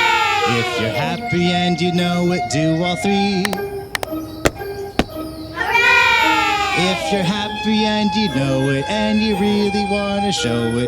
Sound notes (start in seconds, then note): 3.3 clap Clap; 4.4 stomp Stomp